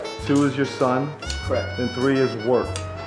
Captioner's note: voiceover